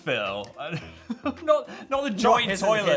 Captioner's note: Phil laughs